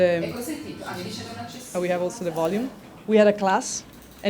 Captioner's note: woman speaking foreign language